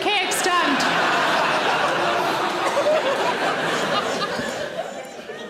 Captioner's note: audience laughs